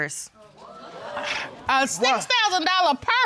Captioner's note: audience exclaims